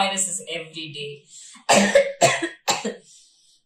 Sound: sneezing, possibly due to corona

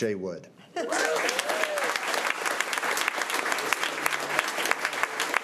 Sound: crowd cheering and clapping

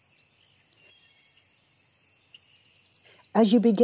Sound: birds chirping

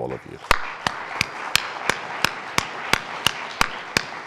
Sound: all applauding

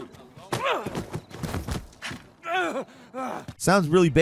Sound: character grunting

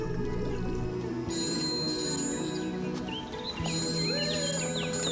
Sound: phone ringing

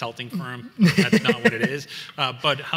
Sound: laughs

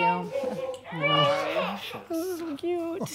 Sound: quietly

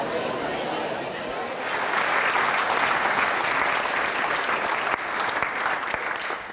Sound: clapping

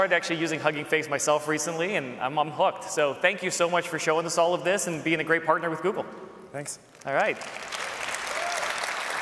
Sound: applause

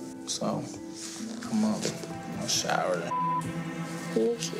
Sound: beep

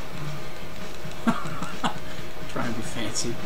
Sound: laughing

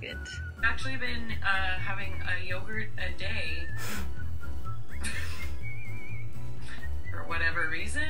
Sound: laughs

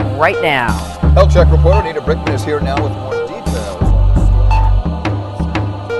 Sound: fading News Cast

